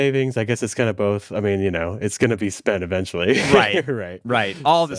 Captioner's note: laughs